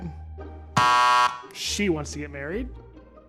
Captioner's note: button buzzes